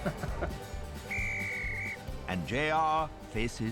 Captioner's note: whistle blows